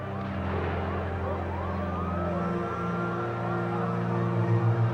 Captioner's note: sirens blaring